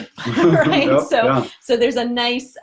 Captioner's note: laughs